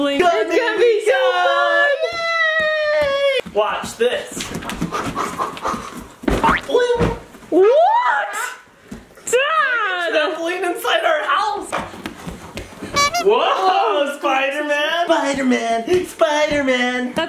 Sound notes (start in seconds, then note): 12.9 horn honks